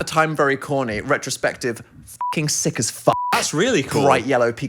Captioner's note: beep